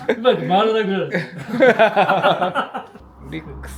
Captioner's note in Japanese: 笑い声